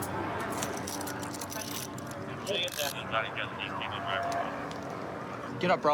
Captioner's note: dispatch chatter